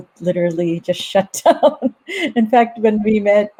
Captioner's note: laughs